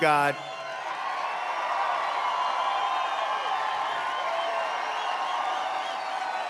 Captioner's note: applause